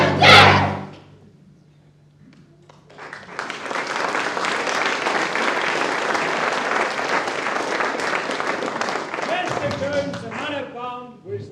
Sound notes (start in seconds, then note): 0.7 applause